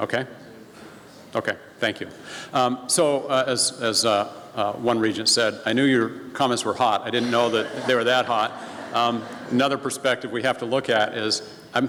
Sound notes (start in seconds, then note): 9.1 laughing from audience